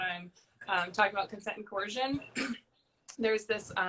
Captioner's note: clears throat